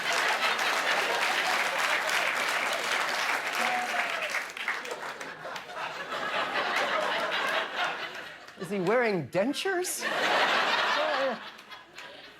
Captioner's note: applause; laughter